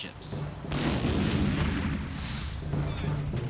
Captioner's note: loud blast